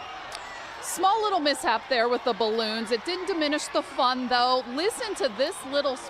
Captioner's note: cheering